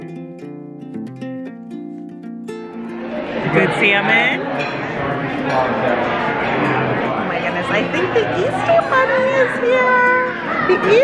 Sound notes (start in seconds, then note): 0.1 tranquil music plays; 5.7 people chattering